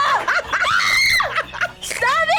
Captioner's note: laughs; screams